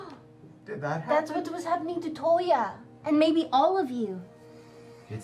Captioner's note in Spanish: respingo